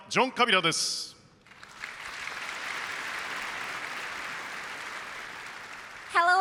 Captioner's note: applause